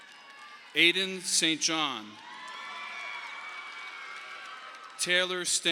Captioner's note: audience applauding